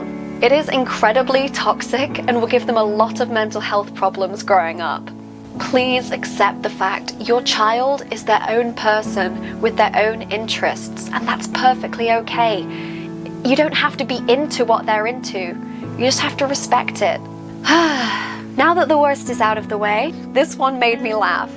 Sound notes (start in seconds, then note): 17.6 sighs